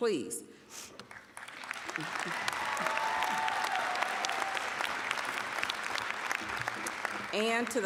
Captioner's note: applause, cheering